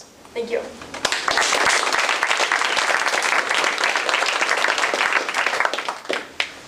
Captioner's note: applause